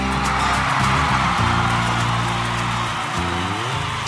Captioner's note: crowd applause